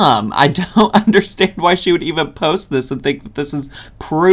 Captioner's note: chuckling